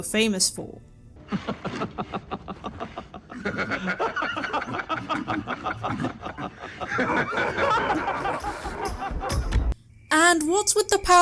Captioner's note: maniacal laughter